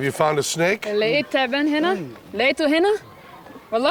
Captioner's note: non-english speech